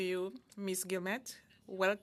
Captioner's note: speaking French